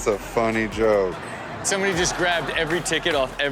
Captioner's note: audience laughs